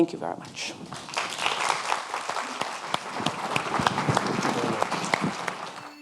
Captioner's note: audience clapping